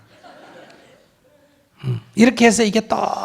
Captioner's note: audience laughter